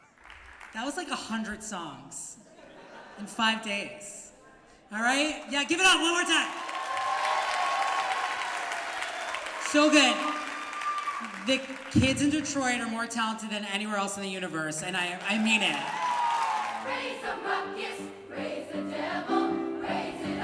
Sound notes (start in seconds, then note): 2.4 laughter; 5.8 cheers and applause